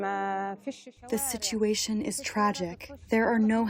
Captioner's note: through translator